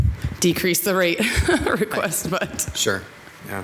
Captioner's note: laughs